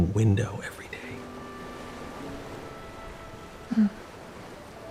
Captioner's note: ocean waves rolling in